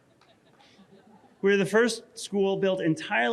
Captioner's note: audience laughing